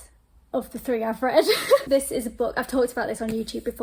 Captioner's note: laughs